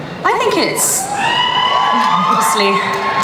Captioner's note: audience cheering